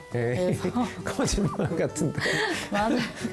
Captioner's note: laughter